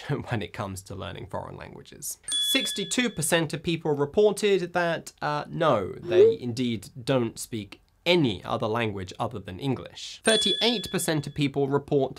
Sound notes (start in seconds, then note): 2.3 bell rings; 10.3 bell rings